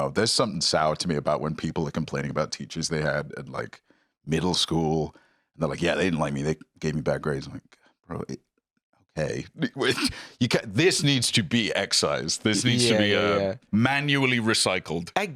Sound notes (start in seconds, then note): 9.6 laughs